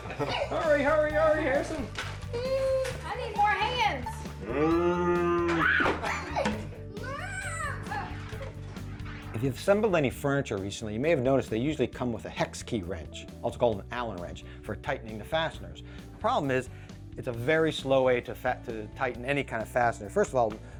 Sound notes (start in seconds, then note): 0.0 laughs; 4.4 imitates cow mooing; 6.6 screams